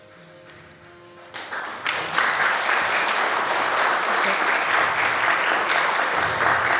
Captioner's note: light upbeat music; audience applauding